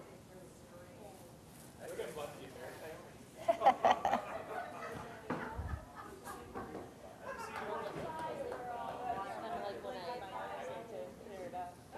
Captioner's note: general chatter